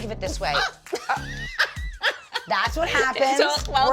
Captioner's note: yells and laughs